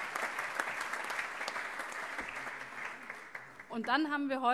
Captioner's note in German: Allgemeiner Beifall